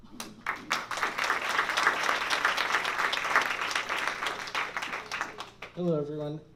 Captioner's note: applause